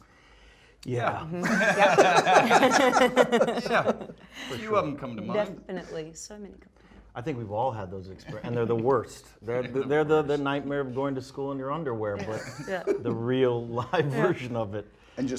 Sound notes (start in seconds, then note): 1.3 all laughing